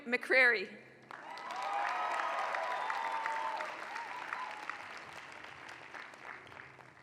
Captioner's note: applause